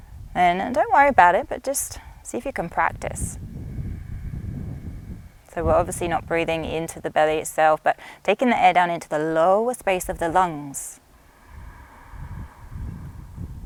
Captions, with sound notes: then don't worry about it. But just, see if you can practice. (inhales and exhales deeply) So, we're obviously not breathing into the belly itself, but taking the air down into the lowest space of the lungs. (inhales deeply)